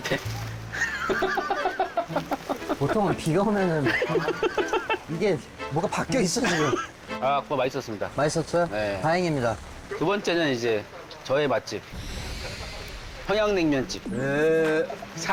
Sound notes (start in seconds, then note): 11.9 heart pounding